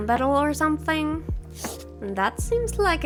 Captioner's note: pencil drawing noise